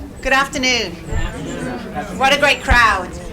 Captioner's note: crowd